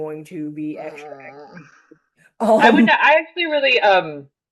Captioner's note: groans